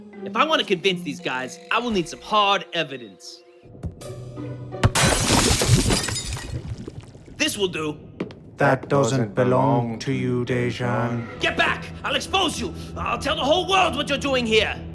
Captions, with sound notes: -If I want to convince these guys, I will need some hard evidence. -(Glass breaks) -This will do. -That doesn't belong to you, Dejan. -That doesn't belong to you, Dejan. -Get back! I’ll expose you! I’ll tell the whole world what you’re doing here!